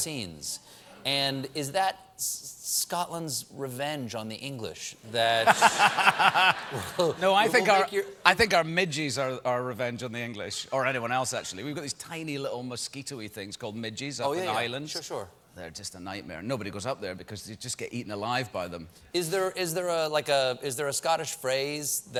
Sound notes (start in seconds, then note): 5.4 laughter